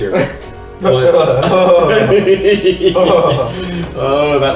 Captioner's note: makes horrified shudder noises; chuckles sinisterly